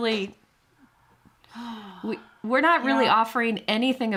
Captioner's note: gasps